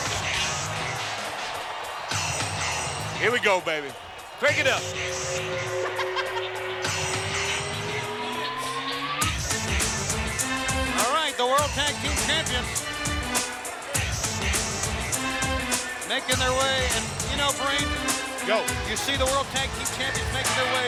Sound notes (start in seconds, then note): 4.8 eerie chuckling; 9.0 upbeat music